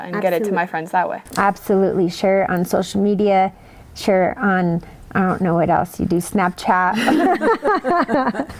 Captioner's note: laughter